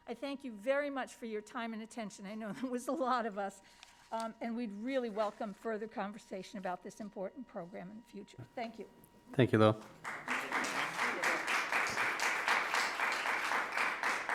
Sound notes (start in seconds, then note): 9.7 crowd clapping